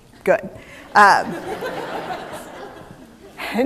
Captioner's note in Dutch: Gelach